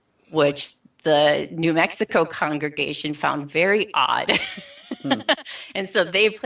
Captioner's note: laughing